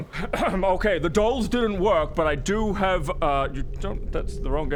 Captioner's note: ahem